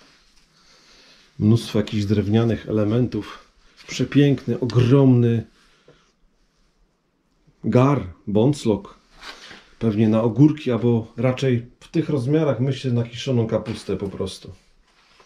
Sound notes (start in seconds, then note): 7.6 in Silesian